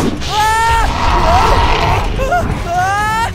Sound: roaring

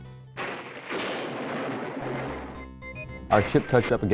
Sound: video game lightning crashes

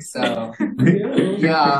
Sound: laughter

